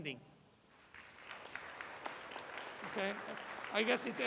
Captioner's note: applause